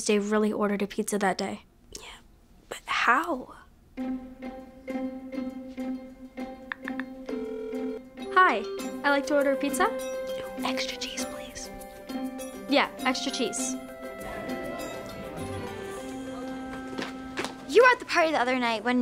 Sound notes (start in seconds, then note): 7.2 phone dialing